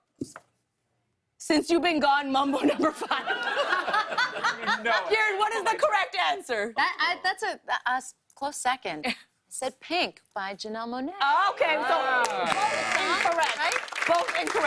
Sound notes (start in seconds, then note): 2.5 laughter; 12.5 buzzer